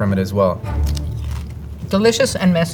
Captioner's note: mouth crunching